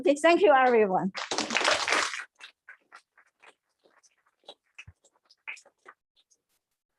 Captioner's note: applause